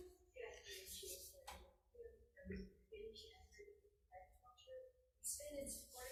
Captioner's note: speaks faintly